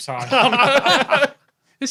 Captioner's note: group laughing